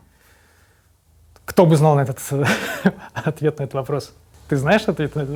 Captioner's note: chuckles